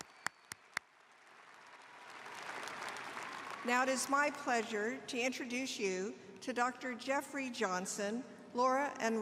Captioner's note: applause